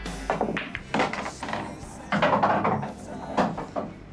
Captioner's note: balls clattering